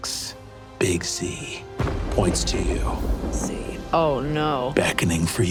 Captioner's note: thunder booms